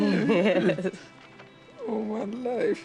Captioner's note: laughs